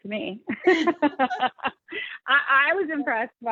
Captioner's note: laughing